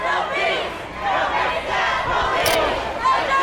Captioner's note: crowd